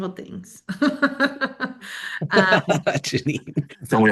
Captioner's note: laughter